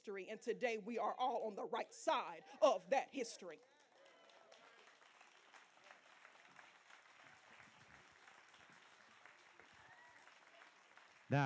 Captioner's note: applause